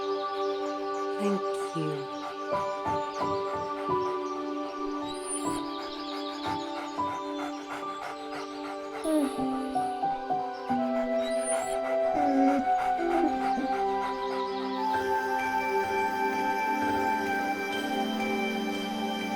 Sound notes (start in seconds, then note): 2.7 tender music; 5.3 whines; 7.4 dogs panting and whining; 10.7 whimpers; 15.4 tender music